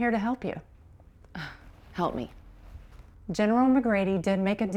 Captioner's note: scoffs